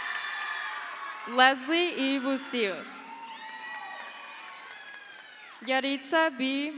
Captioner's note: crowd cheers